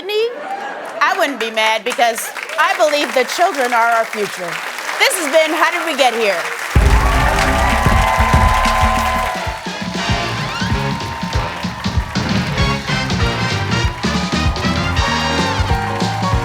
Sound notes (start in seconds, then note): 6.2 cheers and applause